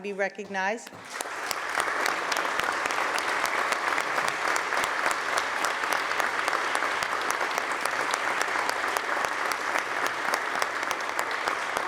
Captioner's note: applause